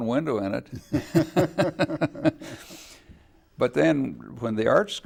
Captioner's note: laughing